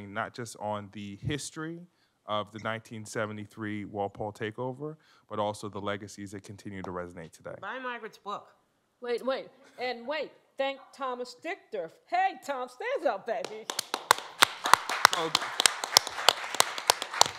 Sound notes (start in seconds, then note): 13.4 applause